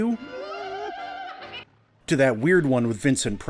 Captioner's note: ghost cackling